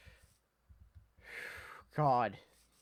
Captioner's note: inhale; exhale